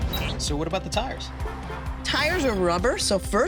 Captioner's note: car honks